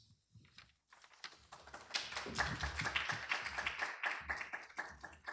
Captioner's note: applause